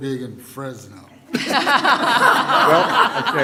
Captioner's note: laughter